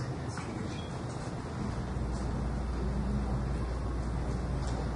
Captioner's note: overlapping chatter